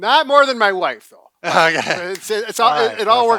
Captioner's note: laughs